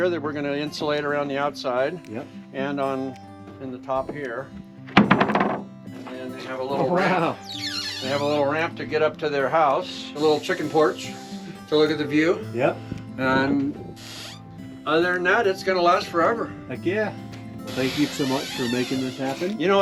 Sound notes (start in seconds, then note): 5.1 lid clattering